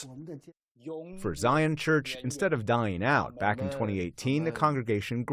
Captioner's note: voice-over